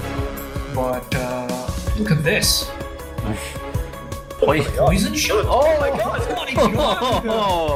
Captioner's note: more glee